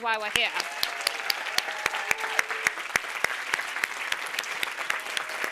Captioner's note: applause